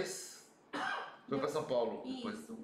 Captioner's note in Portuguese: som de tosse